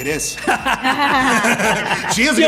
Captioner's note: laughter